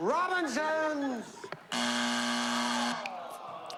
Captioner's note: buzzer